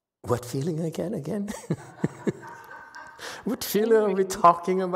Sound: laughs, audience laughs

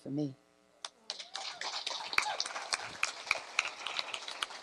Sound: applause

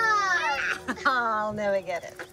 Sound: laughs

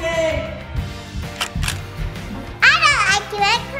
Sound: camera shutter clicks

